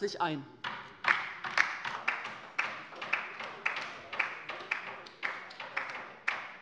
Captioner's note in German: Beifall bei der LINKEN